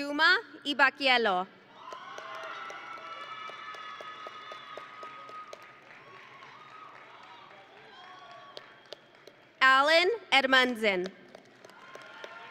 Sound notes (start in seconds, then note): 1.7 audience and graduates cheering; 11.6 audience and graduates cheering